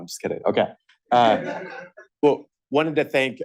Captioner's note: laughter